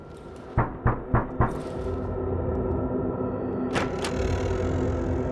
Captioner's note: fist knocking; door sliding